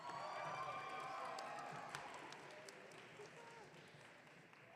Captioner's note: audience cheering